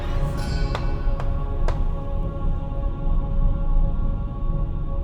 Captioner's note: tree knocks